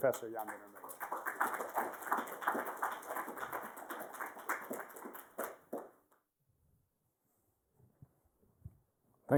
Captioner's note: applause